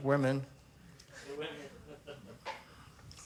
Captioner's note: chuckles